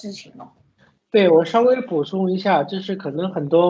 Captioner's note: Mandarin